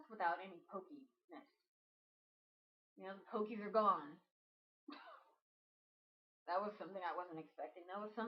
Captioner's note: laughs